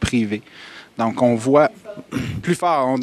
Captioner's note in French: interruption du public